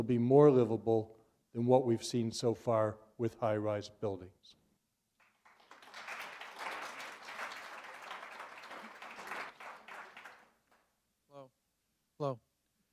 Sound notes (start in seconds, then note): 5.2 applause